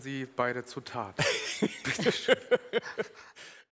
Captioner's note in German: lachen